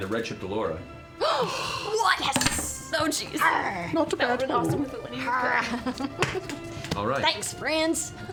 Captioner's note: growls